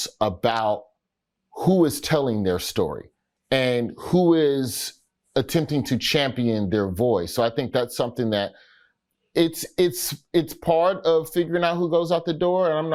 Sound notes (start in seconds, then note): none